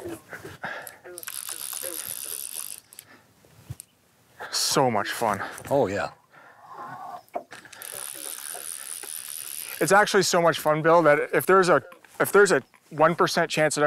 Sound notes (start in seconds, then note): 1.1 fishing line whirs